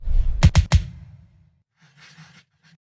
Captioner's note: gunshots